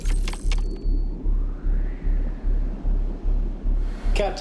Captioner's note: intense music; wind blowing